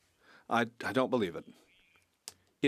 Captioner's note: speaking French